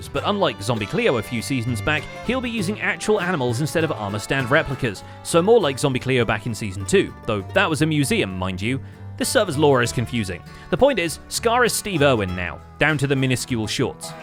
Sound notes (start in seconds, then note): none